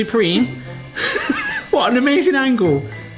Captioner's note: laughter